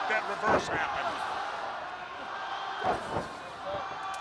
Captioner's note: crowd chatter